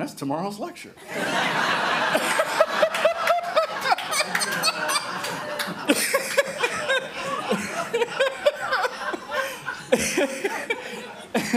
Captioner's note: crowd laughing